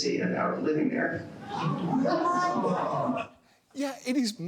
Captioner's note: audience gasping